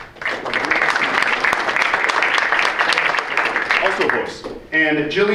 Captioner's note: audience applauds